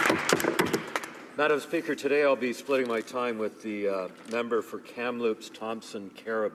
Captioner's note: applause